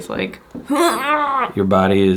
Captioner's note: grunting